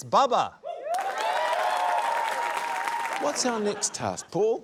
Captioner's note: cheering, applause